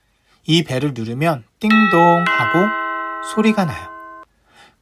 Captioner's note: ding-dong sound